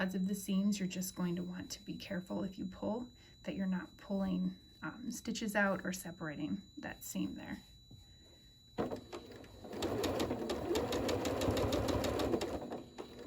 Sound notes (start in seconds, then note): 9.0 sewing